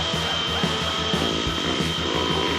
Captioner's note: squeaking